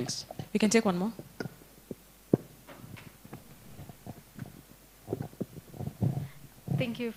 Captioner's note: background chatter